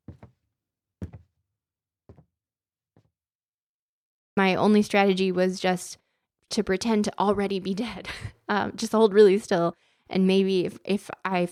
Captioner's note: footsteps